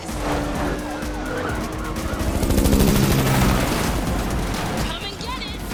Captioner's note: sirens and helicopter blades